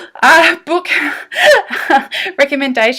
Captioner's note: laughs